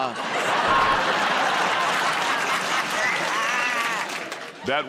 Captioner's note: laughter